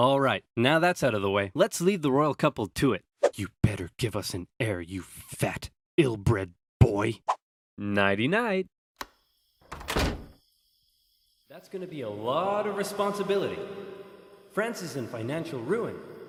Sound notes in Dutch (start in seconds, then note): 3.3 op een minachtende toon